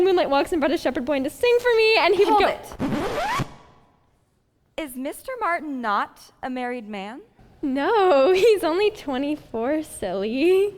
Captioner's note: record scratch